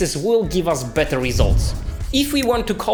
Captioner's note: air whooshing